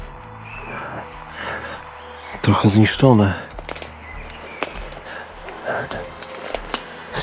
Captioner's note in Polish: Aplauz